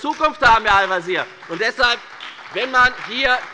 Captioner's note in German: Beifall bei der FDP und der SPD